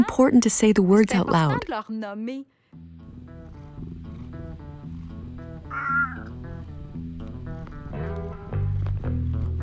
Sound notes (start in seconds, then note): 5.6 meowing